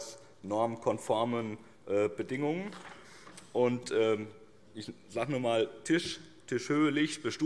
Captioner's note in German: none